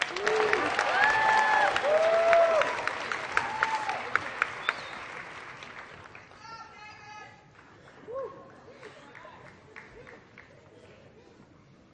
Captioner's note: applause